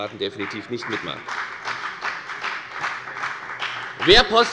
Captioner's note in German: Beifall bei der FDP